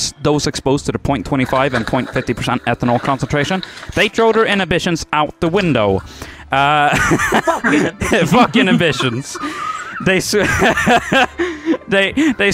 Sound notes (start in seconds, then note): 6.8 laughing; 9.8 group laughter